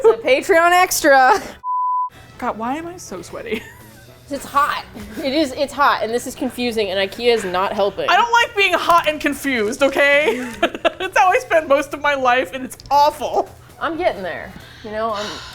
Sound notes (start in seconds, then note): 1.1 laughs; 10.1 laughs